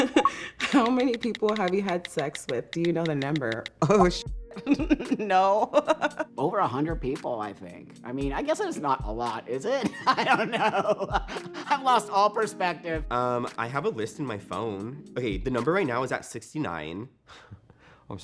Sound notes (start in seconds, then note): 0.0 laughing; 4.3 beep; 5.7 laughing; 9.8 laughing